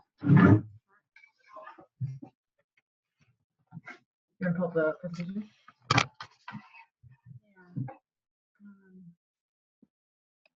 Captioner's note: background Sounds and Discussion